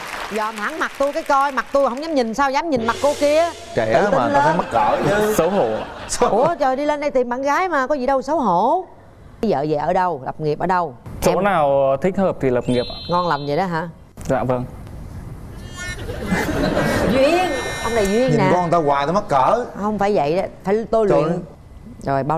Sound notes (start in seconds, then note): 15.7 laugh